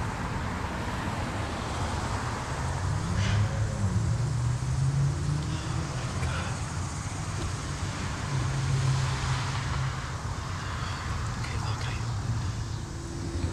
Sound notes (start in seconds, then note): 0.1 traffic whirs; 2.9 vehicle engine rumbles; 7.1 traffic whirs